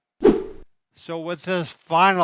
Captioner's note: air whooshing